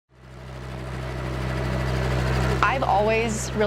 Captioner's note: helicopter rotors spinning